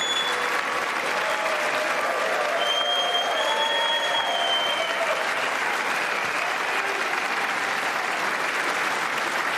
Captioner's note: applause